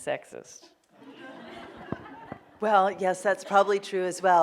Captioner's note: laughing